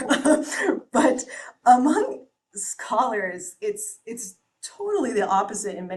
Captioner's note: chuckles